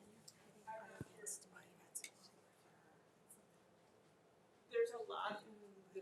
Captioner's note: speaking off-mic